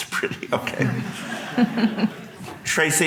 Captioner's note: audience laughing